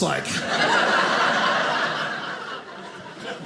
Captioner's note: audience laughing